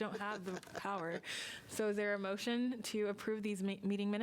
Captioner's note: laughter